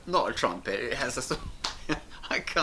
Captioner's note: laughing